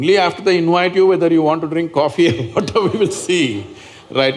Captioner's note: laughs